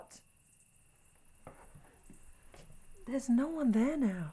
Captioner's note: none